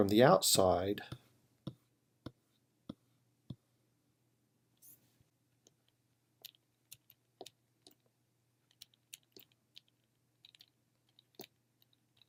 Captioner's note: typing